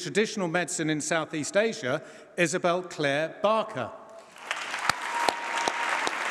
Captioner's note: applause